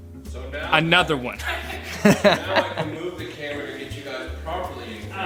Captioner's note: laughing